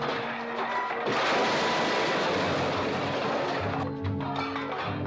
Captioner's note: loud crash